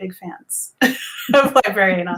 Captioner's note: laugh in unison